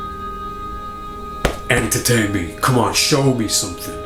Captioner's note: chest thuds